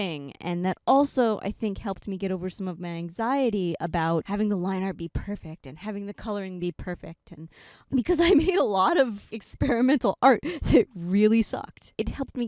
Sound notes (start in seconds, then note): 8.2 laughing